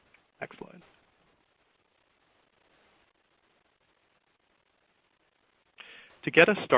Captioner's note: silence